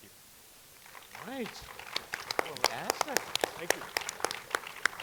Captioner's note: audience clapping